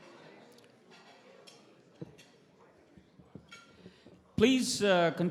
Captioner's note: cutlery clacking